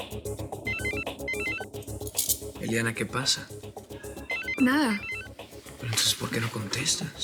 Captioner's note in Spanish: Sigue sonando el celular